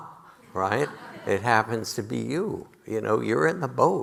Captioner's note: audience laughing